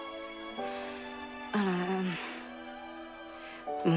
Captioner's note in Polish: wzdycha